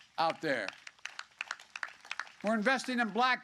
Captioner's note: applause